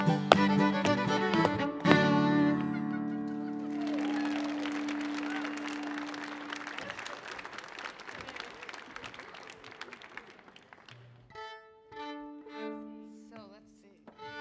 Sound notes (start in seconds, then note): 3.2 audience applauding; 3.2 audience cheering; 11.2 fiddle tuning